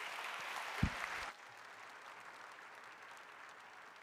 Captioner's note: applause